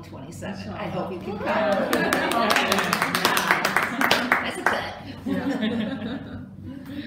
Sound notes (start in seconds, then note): 1.7 applause & laughter